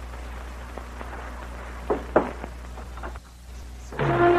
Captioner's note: knocks